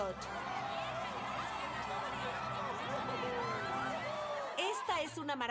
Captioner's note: cheers